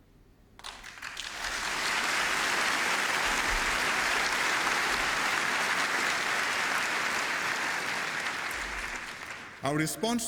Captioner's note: applause